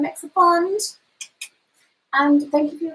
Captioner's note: mouth clicks